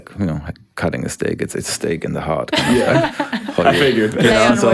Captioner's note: group laughs